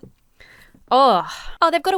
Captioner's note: sighs